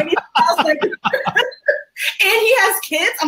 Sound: both laugh

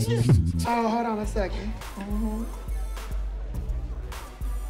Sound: Peele mmhmms

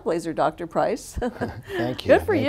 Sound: chuckles

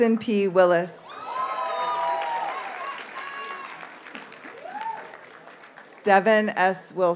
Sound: audience cheers and applauds

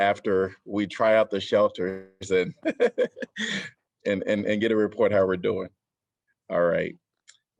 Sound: laughter

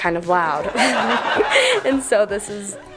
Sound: crowd laughs; laughing

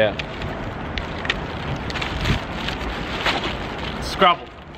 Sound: bag crumpling

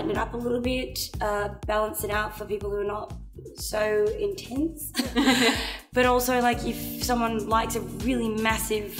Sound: laughs

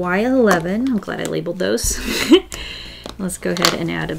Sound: laughs

